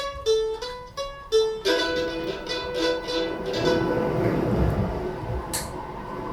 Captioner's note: wind howling